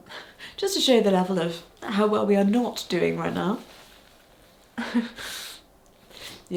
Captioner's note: chuckles